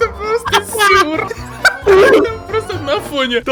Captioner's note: laugh